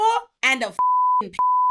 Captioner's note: beep